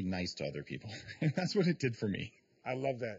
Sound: laughs

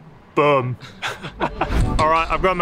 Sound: both chuckling

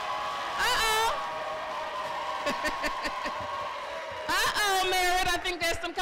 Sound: cheering

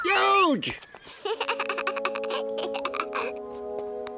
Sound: giggling

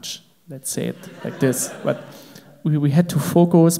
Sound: crowd laughs

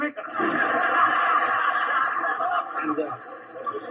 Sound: audience laughing

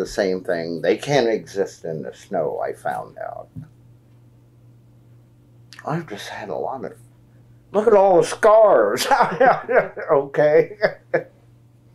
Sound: laughs

